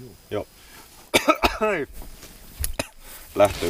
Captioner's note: coughing